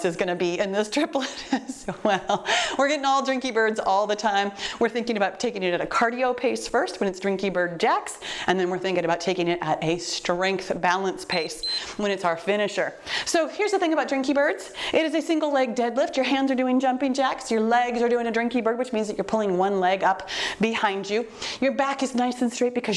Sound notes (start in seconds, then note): 2.1 laughing; 11.3 timer beeps